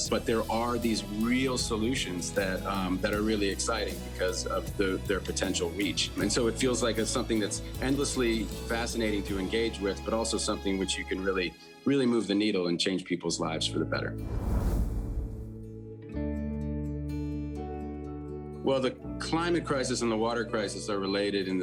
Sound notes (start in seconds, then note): 14.0 pensive instrumental music; 14.2 image whooshing